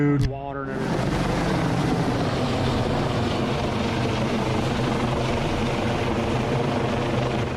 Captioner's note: helicopter